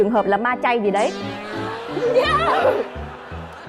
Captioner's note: laughing